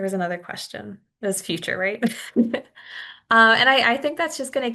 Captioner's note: chuckles